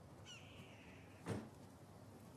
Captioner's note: bird screeching in distance